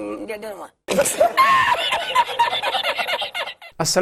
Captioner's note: laughter 😂